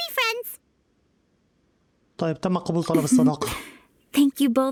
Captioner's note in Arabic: ايمي تضحك